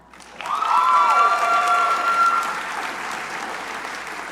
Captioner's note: crowd cheering